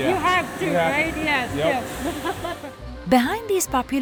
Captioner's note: laughs